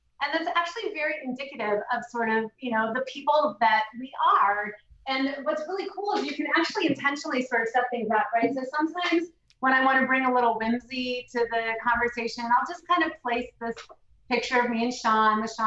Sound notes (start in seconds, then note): none